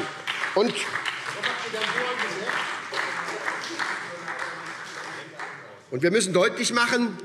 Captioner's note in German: Beifall SPD - Zuruf